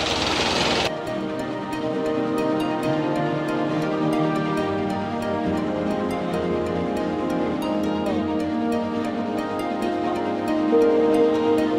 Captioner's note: sound of boat